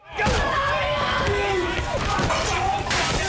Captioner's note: everyone is shouting